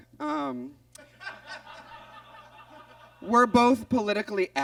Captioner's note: audience laughs